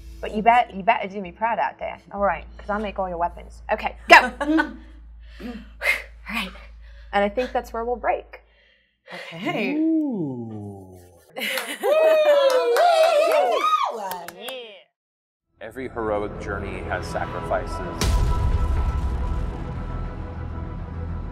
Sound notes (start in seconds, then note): 11.6 everybody cheering; 18.7 epic music